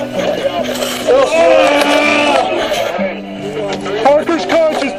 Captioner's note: loud groaning